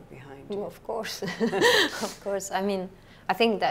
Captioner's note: laughs